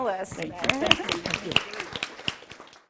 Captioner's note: applause